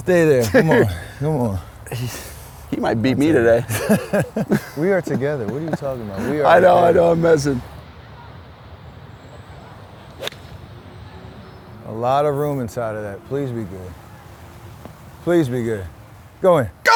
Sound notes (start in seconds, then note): 3.8 laughs